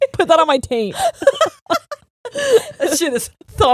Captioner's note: both laughing